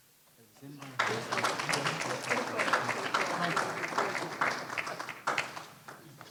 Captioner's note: applause